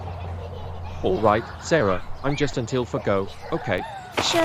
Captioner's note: children Noise